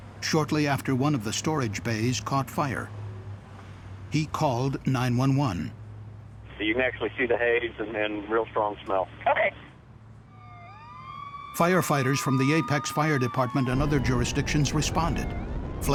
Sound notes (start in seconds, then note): 10.2 sound of sirens